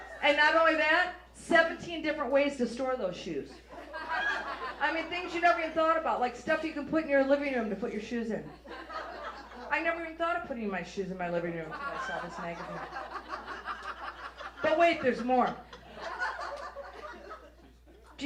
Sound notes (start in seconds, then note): 0.0 audience laughs; 3.5 audience laughs; 8.4 audience laughs; 13.1 audience laughs; 16.0 audience laughs